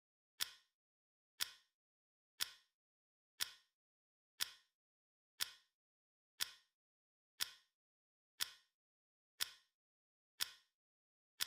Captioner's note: clock ticking